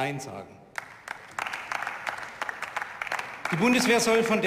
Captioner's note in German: Beifall